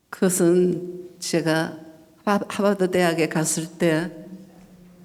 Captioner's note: speaking foreign language